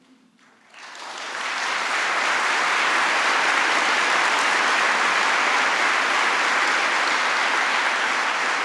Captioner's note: applause